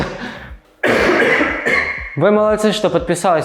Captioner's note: camera-man coughs again